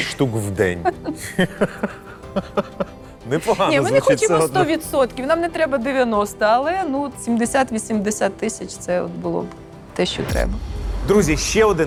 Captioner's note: laughs